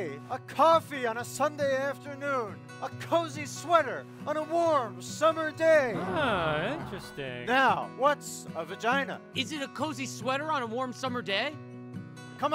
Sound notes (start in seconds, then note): 5.9 audience murmuring